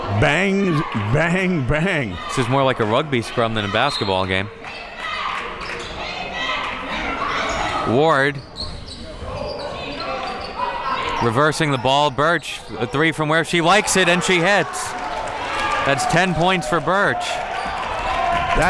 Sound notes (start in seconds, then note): 13.5 audience cheers